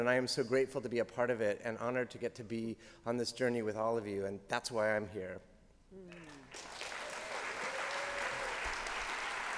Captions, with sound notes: and I am so grateful to be a part of it, and honored to get to be on this journey with all of you, and that's why I'm here. -[applause]